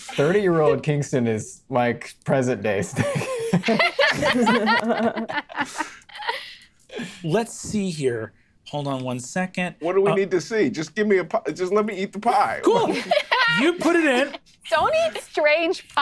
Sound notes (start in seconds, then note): 2.9 players laughing; 12.6 players laughing